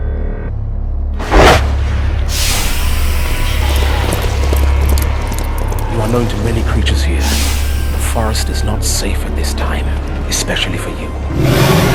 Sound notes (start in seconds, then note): 3.8 centaur Colony Galloping